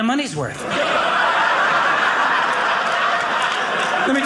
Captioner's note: audience laughing